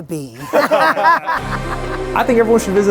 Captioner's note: laughing